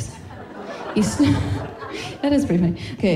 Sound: laughing

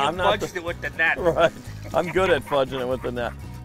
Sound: voiceover

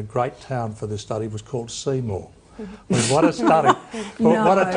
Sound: laughter

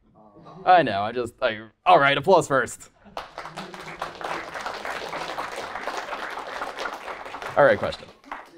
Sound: applause

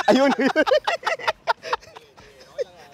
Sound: both laughing; laughs

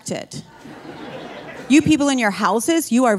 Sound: audience laughing

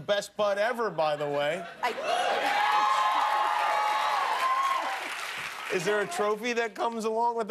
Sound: cheers and applause

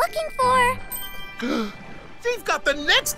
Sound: Crusher gasps

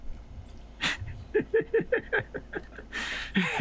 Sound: laughs

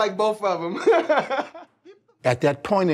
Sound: laughs

